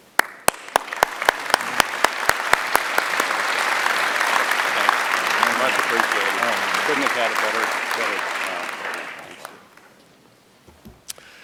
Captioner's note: applause